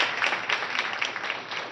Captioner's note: applause